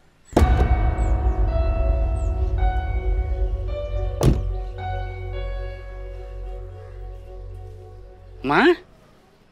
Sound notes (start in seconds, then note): 4.2 car door closes